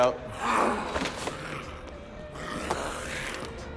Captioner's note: snarling